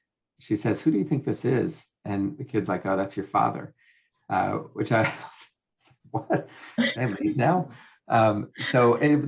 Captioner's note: laughing